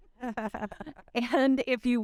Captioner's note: chuckling